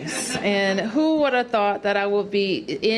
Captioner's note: laughter